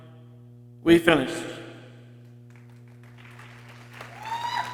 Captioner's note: people cheering